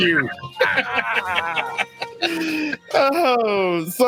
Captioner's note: laughs